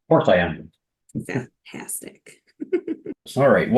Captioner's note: giggling